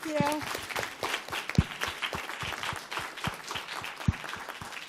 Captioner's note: applause